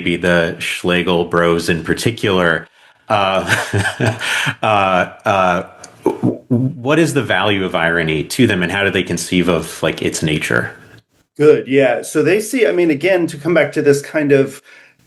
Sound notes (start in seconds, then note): 3.2 laughs